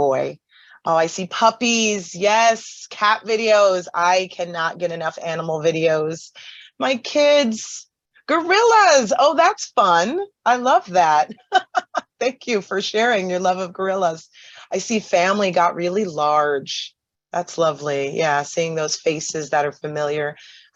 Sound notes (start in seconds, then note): 11.2 laughs